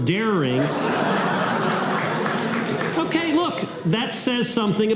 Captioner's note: audience laughter